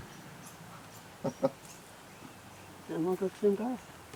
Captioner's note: chuckling